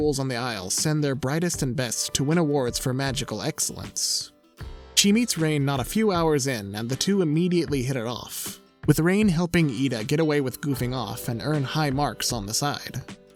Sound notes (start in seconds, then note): none